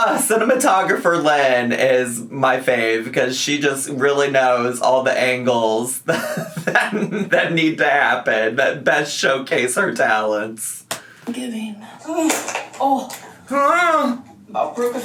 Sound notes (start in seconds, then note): 6.0 laughs; 12.2 grunts